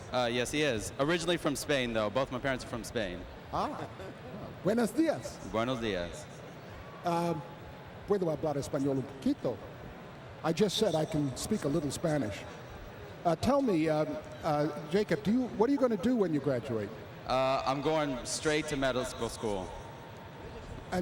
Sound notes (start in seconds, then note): 9.2 spanish